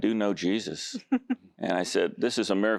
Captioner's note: giggling